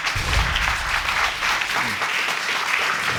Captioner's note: audience applauding